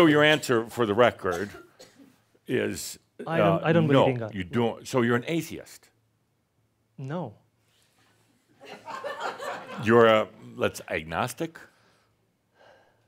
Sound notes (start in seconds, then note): 7.7 some chuckles